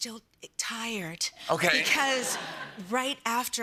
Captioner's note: laughter